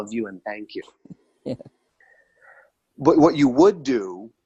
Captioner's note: laughs